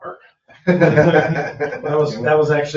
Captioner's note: people chuckle